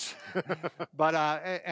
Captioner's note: laughter